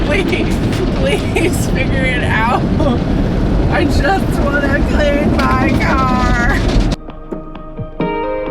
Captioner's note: laughing